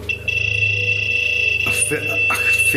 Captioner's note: machine beeps